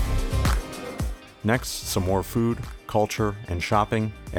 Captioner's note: voiceover